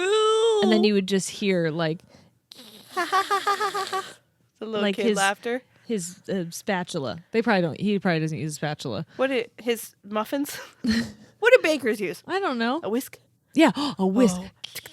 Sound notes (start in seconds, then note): 2.8 screeching; 2.9 laughing